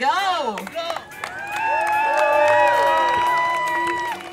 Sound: cheering

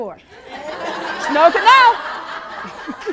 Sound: laughing

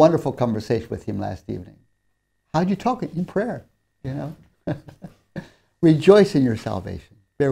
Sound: laughs

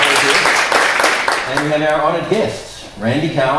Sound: applause

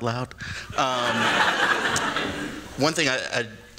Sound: laughter

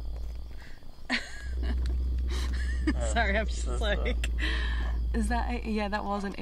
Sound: laughs

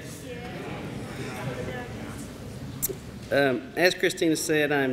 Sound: audience responds positively

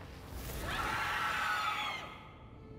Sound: screams

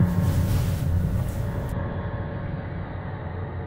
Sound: sheets and bedding rustling

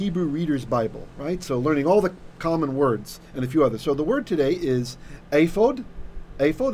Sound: Hebrew

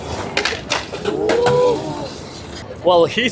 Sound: spectators ooh

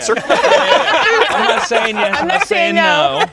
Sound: all laughing

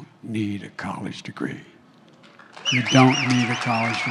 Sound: applause

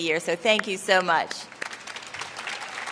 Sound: applause

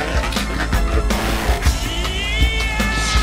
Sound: pitched down and distorted

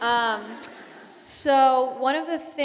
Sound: audience laughing

